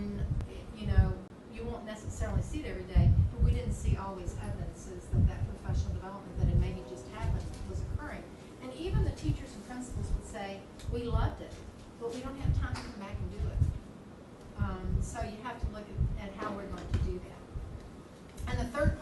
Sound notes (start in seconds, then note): none